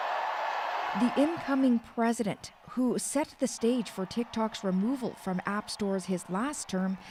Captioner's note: cheers and Applause